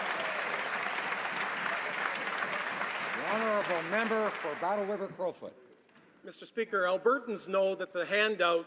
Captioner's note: applause